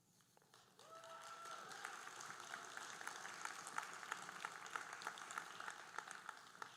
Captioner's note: audience cheering and applauding